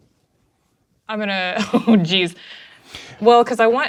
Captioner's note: laughing